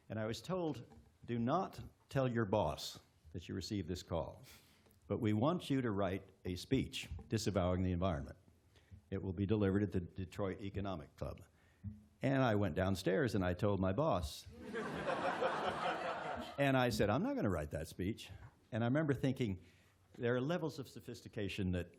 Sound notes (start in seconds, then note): 14.5 laughter